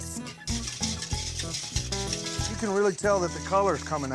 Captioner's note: stirring